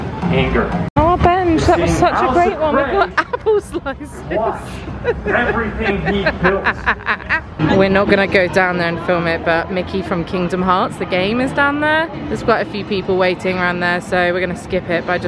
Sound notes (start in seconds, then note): 3.1 laughing